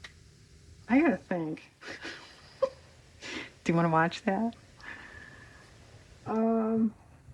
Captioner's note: laughs